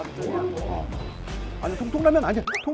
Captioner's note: beep